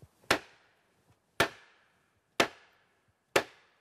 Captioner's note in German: Hämmern